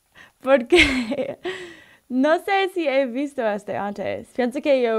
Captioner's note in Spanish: risa